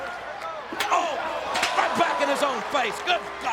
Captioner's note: chair thuds